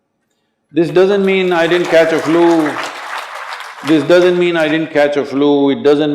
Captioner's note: applause